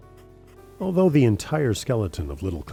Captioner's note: voiceover